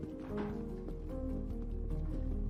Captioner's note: none